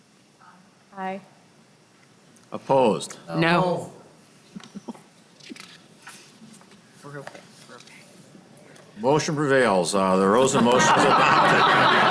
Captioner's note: chorus of ayes